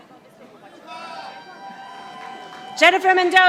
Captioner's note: audience applauding